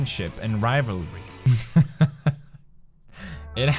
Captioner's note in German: lacht wieder